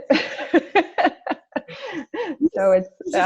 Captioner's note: laughs